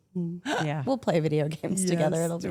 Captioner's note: Rhea laughs